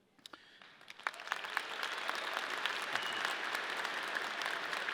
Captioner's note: audience clapping